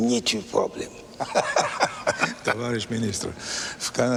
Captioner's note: men laugh